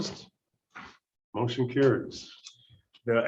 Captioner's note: silence